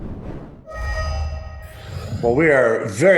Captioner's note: ding